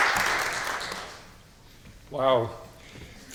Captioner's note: applause